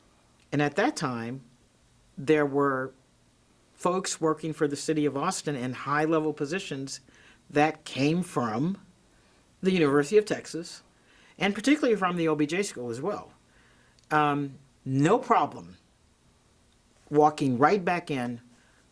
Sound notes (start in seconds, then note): none